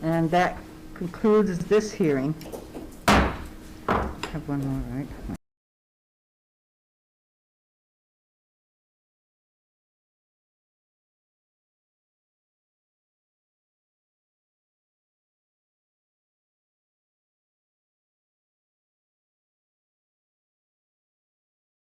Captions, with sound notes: And that concludes this hearing. (gavel bangs)